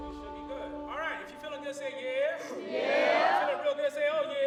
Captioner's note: crowd